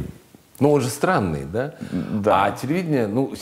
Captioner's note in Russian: Дудь, неуверенно